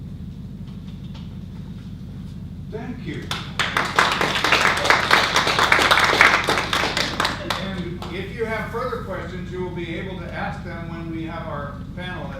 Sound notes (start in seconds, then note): 3.2 audience applause